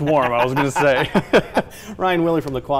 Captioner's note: laughter